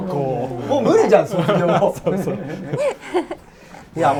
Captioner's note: laughs